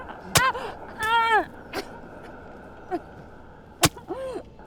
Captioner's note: knife stabbing